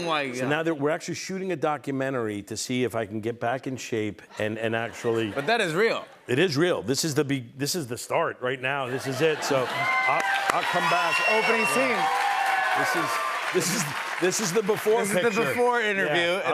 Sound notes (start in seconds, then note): 12.0 cheers and applause